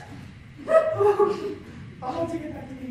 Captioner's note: sob